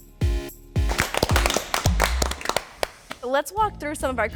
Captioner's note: audience claps